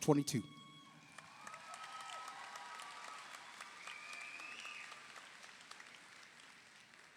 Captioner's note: audience applauds; audience cheers